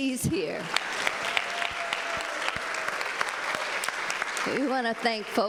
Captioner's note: audience applauding